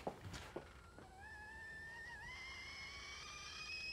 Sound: kettle whistling

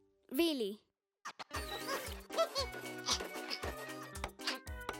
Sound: chirping

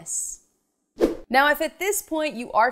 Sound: animation whooshes

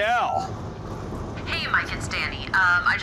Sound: on phone

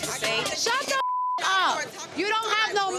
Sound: beep

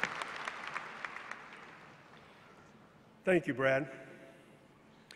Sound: applause

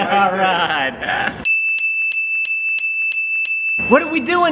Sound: ding, ding, ding, ding, ding, ding, ding

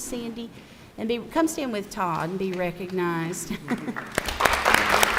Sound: applause

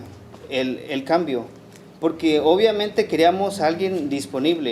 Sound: speaking Spanish

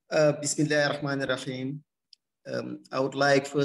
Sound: non-english speech

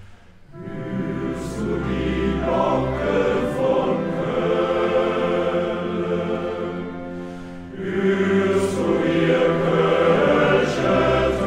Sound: Bells of Cologne

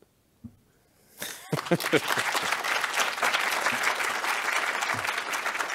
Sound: audience applauds

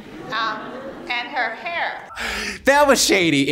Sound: crowd lightly chuckles

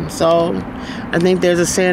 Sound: none

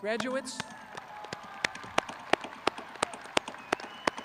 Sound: crowd clapping

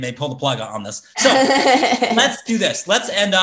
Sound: laughs

